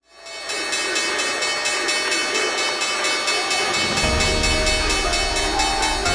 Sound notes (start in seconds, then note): 0.2 bell ringing; 2.1 people chanting and cheering